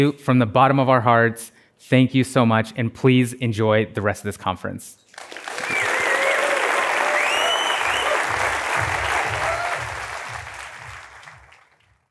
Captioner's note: applause